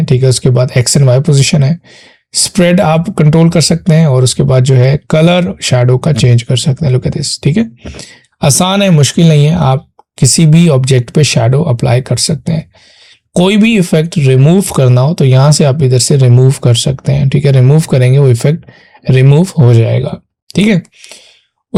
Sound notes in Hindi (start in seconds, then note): 7.6 नाक से की जाने वाली आवाज़